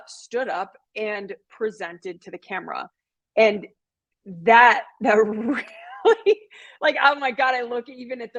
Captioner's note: laughter